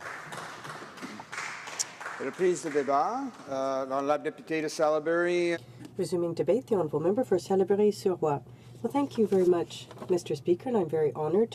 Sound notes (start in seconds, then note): 1.9 applause